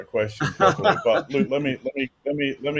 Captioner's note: laugh